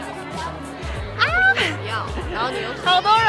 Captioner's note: shriek